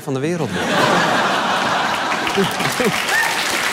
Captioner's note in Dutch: gelach